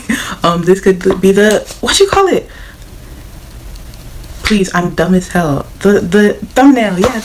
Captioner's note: snapping sounds